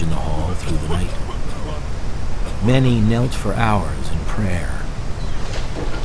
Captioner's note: crying